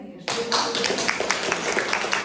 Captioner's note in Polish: oklaski